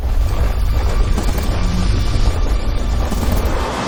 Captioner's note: engine revving